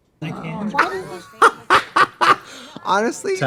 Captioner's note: both laugh